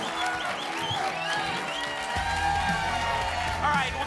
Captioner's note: applause and cheering